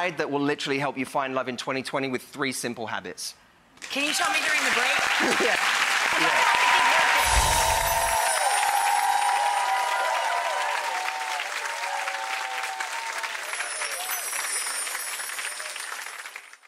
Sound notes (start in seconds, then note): 5.4 audience applauds; 7.0 audience cheers; 7.2 bells chime